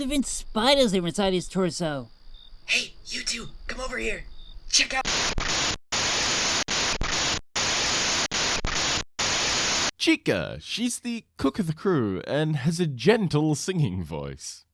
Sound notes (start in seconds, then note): 4.8 crackling static plays once more